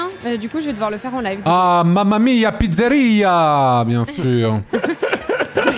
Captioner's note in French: accent italien; rires